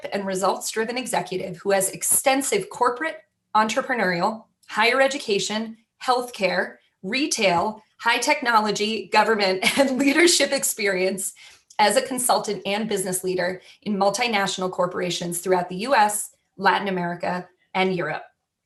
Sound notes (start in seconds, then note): 9.1 laughter